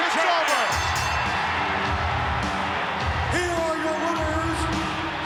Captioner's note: bell ringing; upbeat music